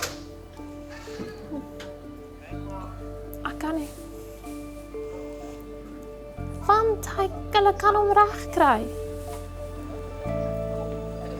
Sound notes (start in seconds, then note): 6.7 speaks in foreign language